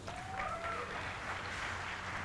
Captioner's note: applause